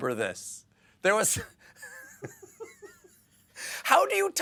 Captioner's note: laughter